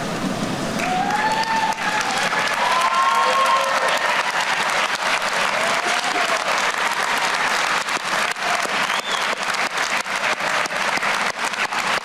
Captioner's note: applause